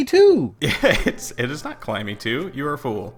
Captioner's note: chuckling